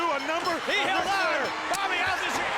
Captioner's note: bell rings